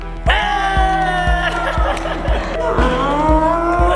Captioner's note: group cheering